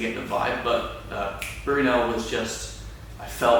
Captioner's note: snapping fingers